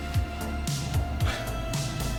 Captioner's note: scoff